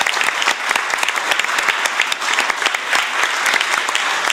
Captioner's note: applause